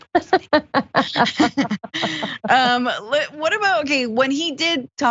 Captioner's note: laugh